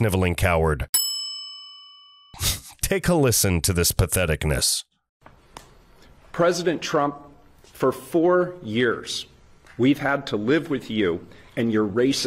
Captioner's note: ding, ding, ding